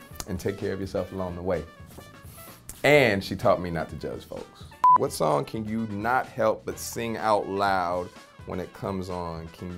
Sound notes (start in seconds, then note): 4.8 screen beeping